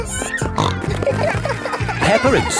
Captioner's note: snorting